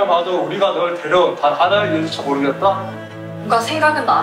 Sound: tends to say the lines with a beat

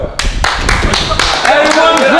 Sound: group applauds

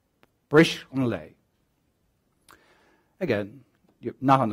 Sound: speaks Gaelic

